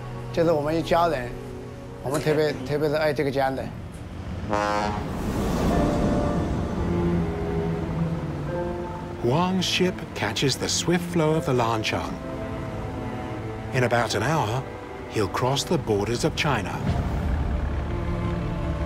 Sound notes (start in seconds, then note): 4.4 foghorn blows